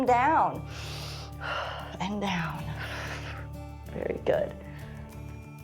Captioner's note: inhales and exhales